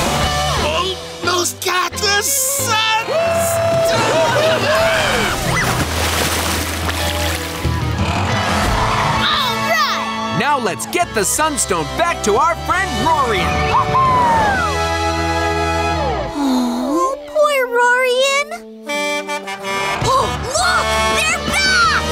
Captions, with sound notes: -Almost got the sun... -Woo hoo hoo! All right! Now let's get the sun stone back to our friend Roarian! Woo hoo! -Aww. -Aww, poor Roarian. [truck horn honking] Oh look, they're back!